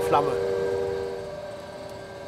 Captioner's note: machine noise